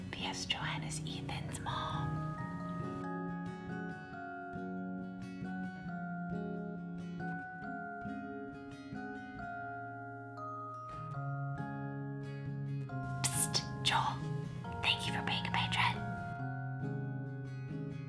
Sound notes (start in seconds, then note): 0.1 whispering; 3.8 acoustic lullaby music; 13.3 whispering; 17.9 acoustic lullaby music